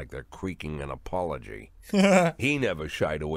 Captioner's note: laughs